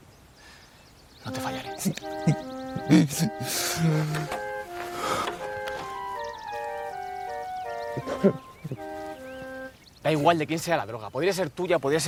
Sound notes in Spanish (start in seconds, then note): 2.6 Llora